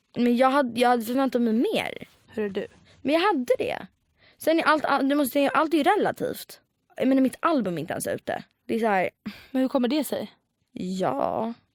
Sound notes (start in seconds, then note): 9.2 sigh